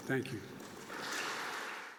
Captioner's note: applause